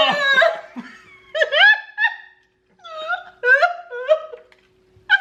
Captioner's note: laughing loudly